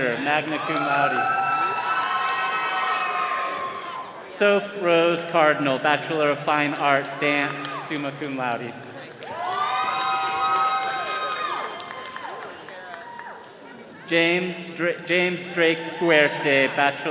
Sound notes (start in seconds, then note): 1.6 all cheering; 9.6 all cheering